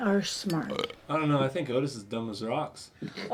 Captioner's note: belches